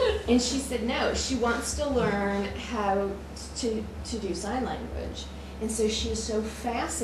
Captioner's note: laughter